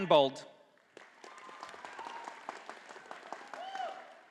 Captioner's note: audience applauding